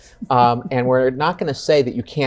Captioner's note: chuckles